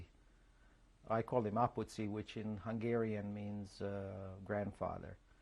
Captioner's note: non-english